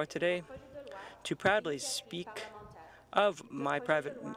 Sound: speaking French

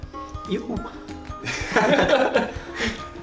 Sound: laughing

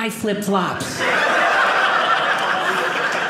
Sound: audience laughing

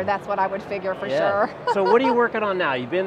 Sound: laughing

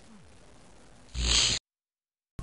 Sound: fizzle

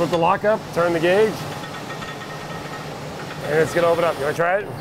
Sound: gear clicking

